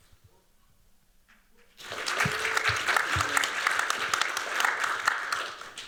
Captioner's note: applause